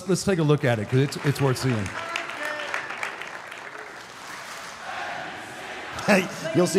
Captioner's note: audience applauding